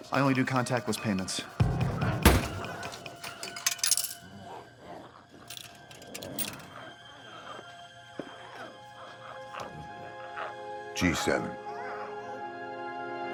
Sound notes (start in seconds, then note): 2.8 quarter rattles